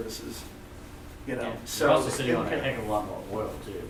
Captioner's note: voiceover